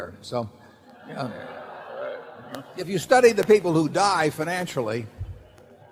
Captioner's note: laughter